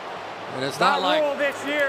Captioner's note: booing